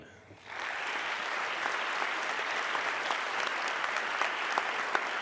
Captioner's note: audience clapping